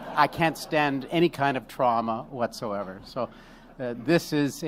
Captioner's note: laughter